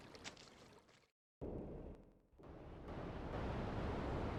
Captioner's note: plane engine roaring